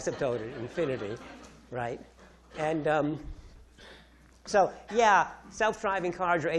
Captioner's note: audience laughing